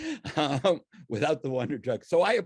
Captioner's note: laughs